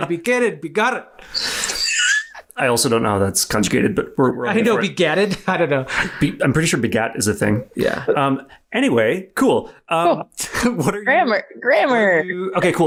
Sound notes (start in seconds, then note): 1.6 laughs